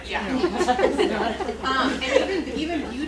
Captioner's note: laughter